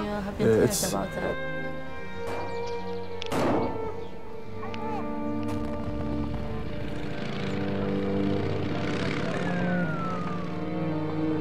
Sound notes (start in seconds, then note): 2.7 somber music; 3.3 gunshot; 7.5 motorcycle engine running